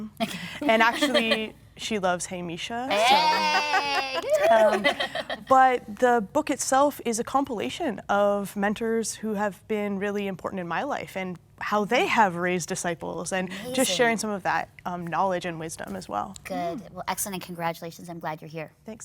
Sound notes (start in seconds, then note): 0.1 laughing; 2.9 cheering